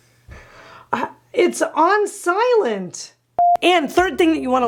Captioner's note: beeps